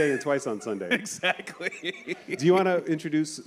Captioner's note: chuckles